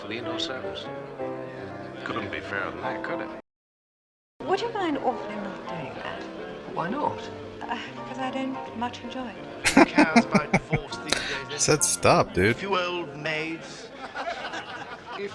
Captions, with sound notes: [Laughing] She said stop, dude.